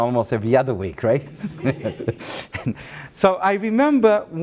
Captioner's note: laughs